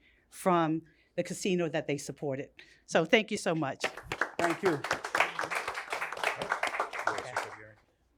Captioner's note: applause